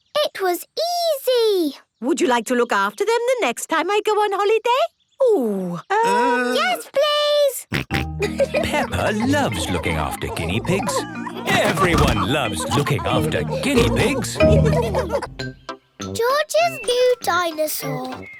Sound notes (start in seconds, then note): 7.6 snorting and giggling; 14.5 laughter